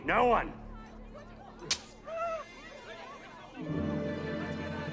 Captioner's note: clive whimpering; knife slicing